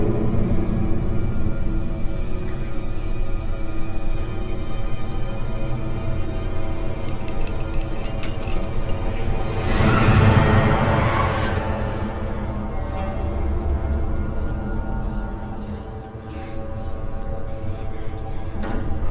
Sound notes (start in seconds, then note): 7.0 chains rattling; 9.7 dramatic music; 9.7 eerie whispering